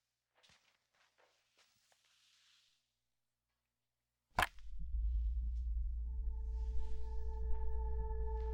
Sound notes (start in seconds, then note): 4.3 click